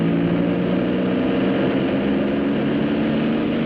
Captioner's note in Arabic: صوت المحرك